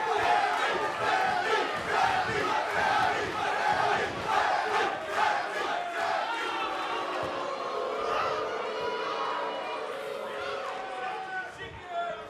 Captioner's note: fans chanting